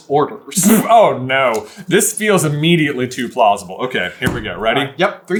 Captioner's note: spits